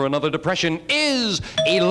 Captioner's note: bell dings